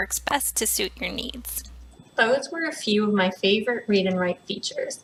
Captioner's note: computer starts speaking